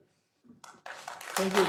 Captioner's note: applause